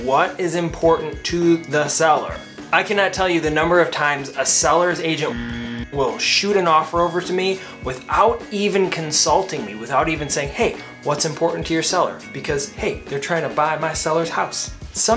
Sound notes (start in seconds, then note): 5.3 loud beep